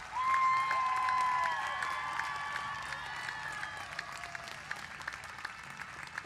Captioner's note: cheers and applause